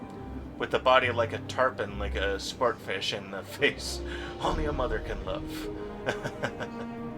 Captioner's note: laughs